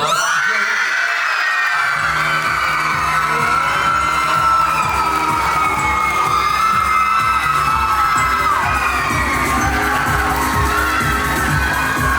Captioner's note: audience cheers